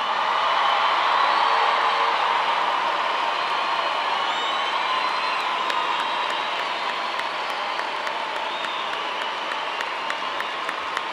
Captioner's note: cheers and applause